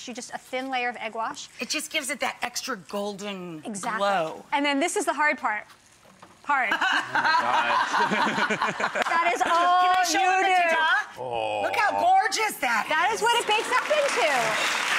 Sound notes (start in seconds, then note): 6.8 chuckles; 14.8 audience applauds